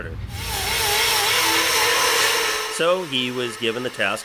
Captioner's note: grinder noise